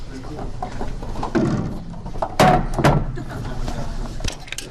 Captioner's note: background murmuring